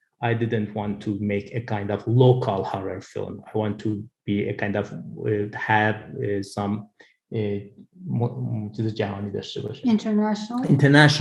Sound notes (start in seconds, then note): 6.3 speaks in foreign language